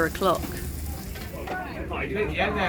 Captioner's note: sizzling